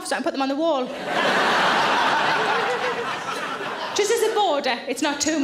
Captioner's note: audience laughing